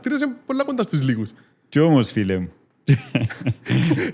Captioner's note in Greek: γέλιο